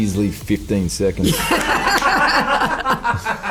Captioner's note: laughing